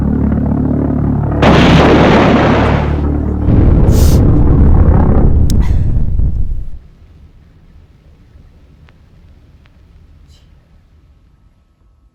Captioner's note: bombing